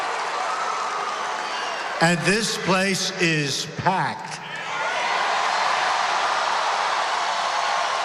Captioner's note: applause